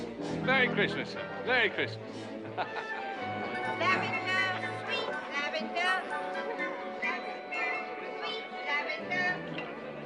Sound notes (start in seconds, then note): 2.2 chuckles